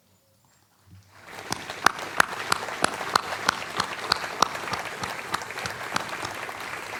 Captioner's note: applause